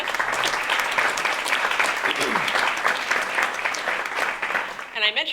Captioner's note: applause